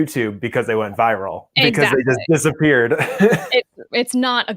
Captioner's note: chuckles